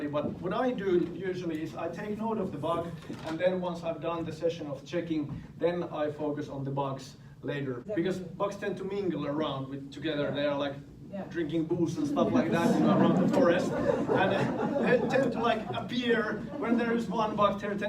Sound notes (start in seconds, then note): 12.0 students laugh